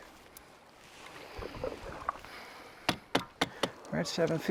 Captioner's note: water splashes; oar taps